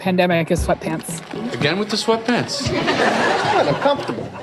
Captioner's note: audience laughter